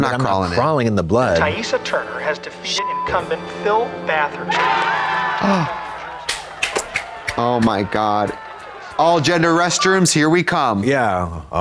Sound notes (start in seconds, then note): 2.8 beep; 4.4 crowd erupting; 5.4 Trixie gasps; 6.1 Trixie applauds